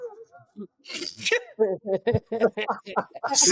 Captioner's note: laughing